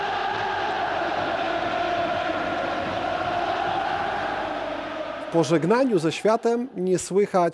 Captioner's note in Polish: Aplauz